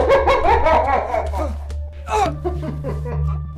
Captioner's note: Isaac shouts